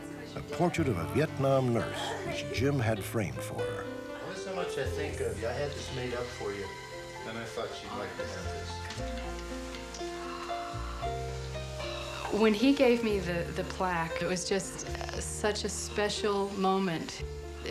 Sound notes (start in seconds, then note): 10.4 gasps